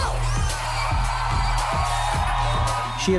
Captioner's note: crowd cheering